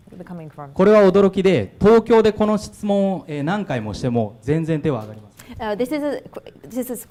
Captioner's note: speaking foreign language